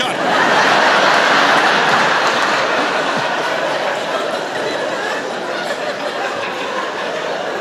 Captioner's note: laughter